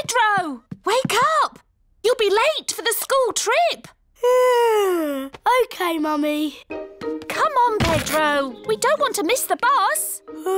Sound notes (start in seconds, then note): 4.2 yawns